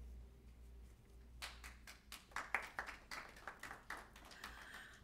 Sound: applause

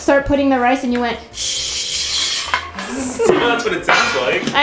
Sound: imitates pouring sound

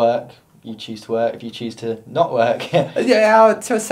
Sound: laughs

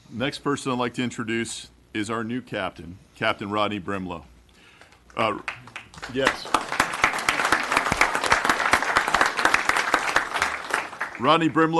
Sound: applause

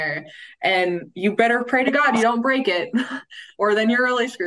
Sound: chuckles

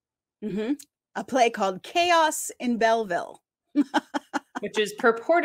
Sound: laughs

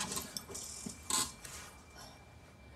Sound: seat creaks

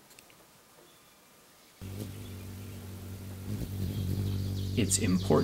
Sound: deep humming sound

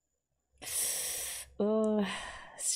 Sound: sharp inhale

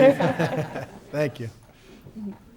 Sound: laughs

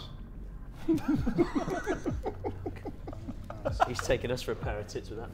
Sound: Sidemen laughing

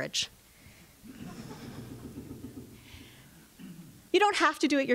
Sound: audience laughs

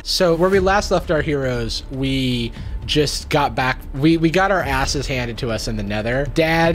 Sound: none

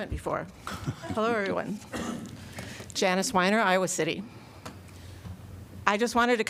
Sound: laughter

